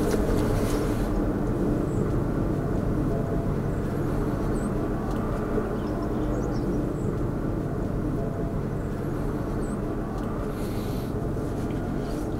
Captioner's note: sound of distant train